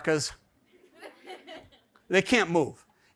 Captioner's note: audience laughs